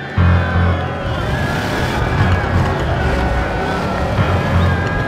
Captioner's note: crowd cheering; engines rumbling; ominous music